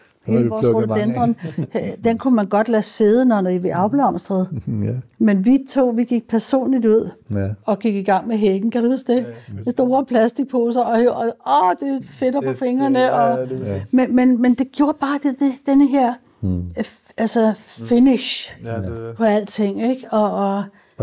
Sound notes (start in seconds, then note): 13.5 laughs